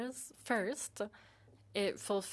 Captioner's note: speaking in French